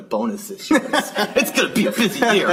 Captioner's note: laughter